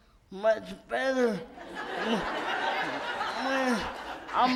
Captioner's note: audience laughs